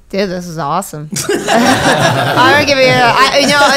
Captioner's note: laughing